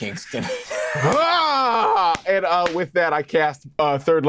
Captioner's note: roars